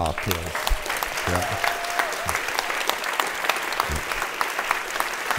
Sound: audience applauds

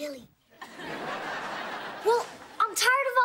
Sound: laughing

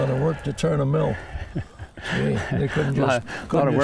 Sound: laughs

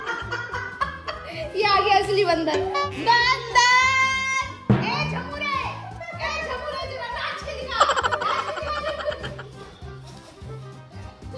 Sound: laughter

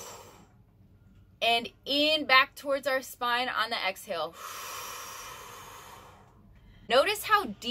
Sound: inhaling; exhaling

